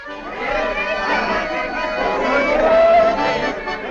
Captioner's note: crowd talking and laughing